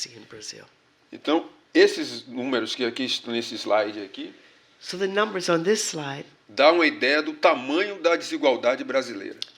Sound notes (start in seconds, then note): 3.3 speaking portuguese; 8.0 speaking portuguese